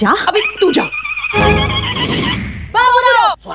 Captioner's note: Cell phone ringing